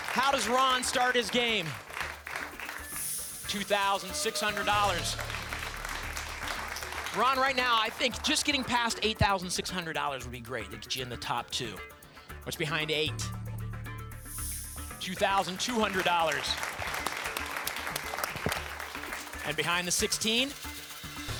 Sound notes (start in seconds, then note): 5.0 applause; 15.1 applause